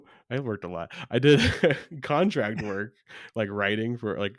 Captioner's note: laughs